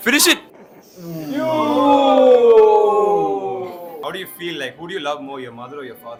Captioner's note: cheering noises